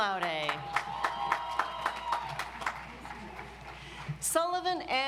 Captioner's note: audience applauds